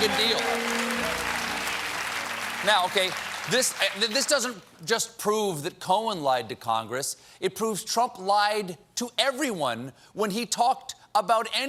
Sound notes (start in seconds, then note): 3.0 applause